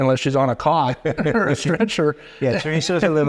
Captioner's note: laughing; chuckling